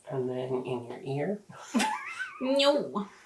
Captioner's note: laughs